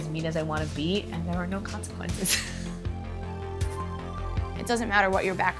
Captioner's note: laughs